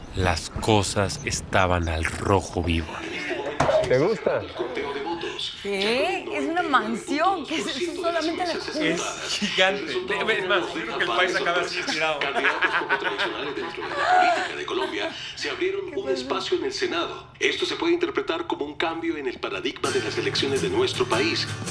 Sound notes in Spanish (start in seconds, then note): 10.9 Risas; 15.2 Voz en la TV